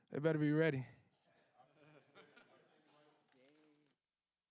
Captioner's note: laughter